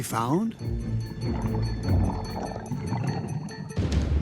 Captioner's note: bubbles